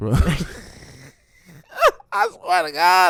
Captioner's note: laughing